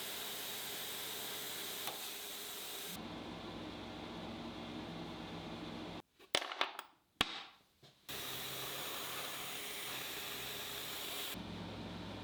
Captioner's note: box clicking